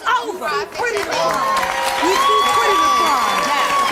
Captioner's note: audience cheers and applauds